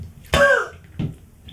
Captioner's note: coughs